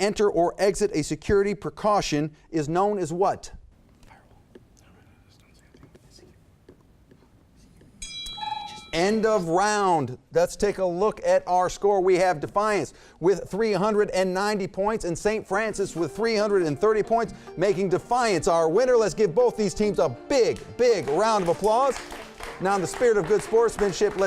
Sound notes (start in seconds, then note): 4.2 contestants whispering; 8.0 bell dings; 8.0 timer sounds; 20.9 audience applauds